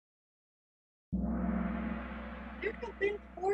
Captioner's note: gong